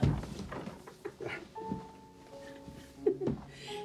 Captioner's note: Madeleine chuckles